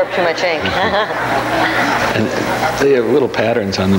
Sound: audience laughs

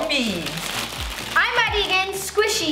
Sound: rustling

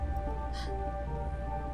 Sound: gasp

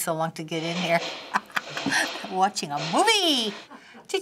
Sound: chuckling; Finebros snicker

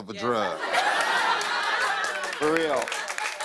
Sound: laughter

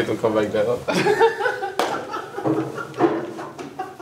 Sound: both laugh

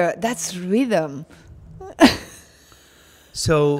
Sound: Dominique chuckling

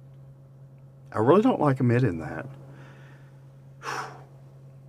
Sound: sighs

